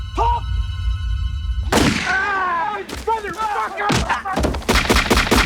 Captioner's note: yells